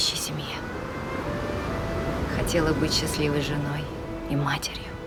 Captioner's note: waves crashing